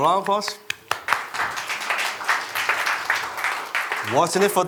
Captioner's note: applause